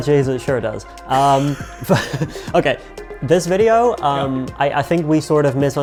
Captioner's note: both chuckling